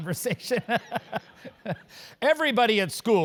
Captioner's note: laugh